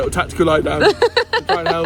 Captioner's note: laughs